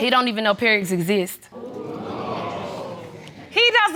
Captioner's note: audience exclaiming